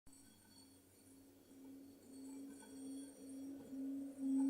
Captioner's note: chiming; low pitched whistling